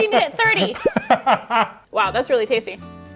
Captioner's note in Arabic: يضحك